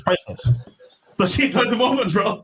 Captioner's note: sniggers